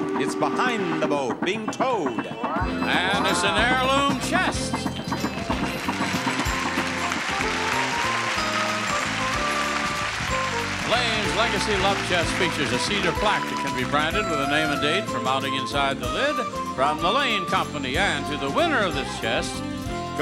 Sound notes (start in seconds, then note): 5.1 audience applauding; 5.2 upbeat music